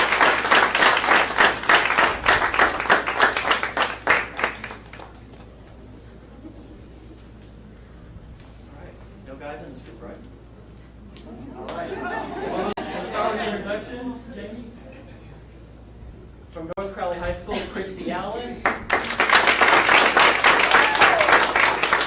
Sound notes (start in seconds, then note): 9.6 audience laughing; 18.6 audience applauding